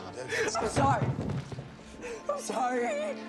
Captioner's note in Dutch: thumps; huilt